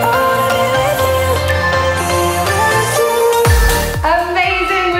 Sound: alarm beeping

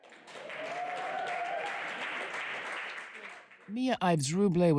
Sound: audience applauding

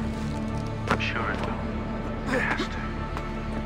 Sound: Shaun through radio

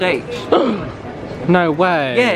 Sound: gasps

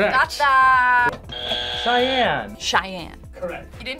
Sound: buzzer rings

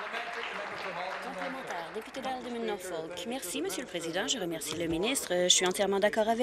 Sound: applause

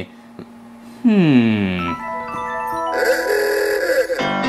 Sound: funky piano music; car honks

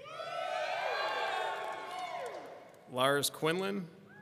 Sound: people cheering

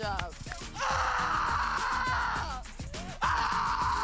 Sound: screaming

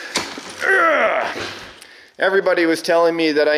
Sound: forceful grunt

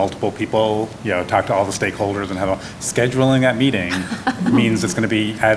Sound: laughter

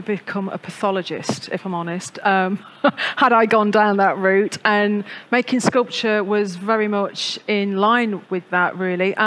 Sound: laughs

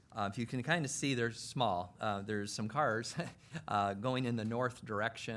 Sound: chuckles

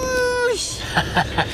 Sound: laughs

